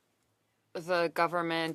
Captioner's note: speaking French